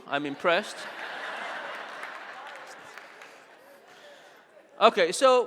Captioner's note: audience laughing